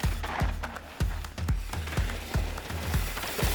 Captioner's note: bike screeches; upbeat music